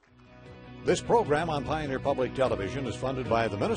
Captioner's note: voiceover